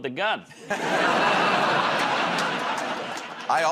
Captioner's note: laughter